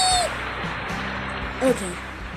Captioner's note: cheering